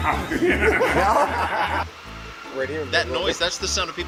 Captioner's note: laughs